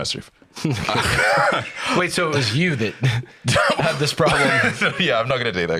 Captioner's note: laughs